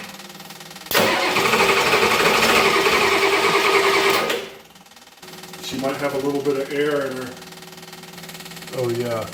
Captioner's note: engine cranks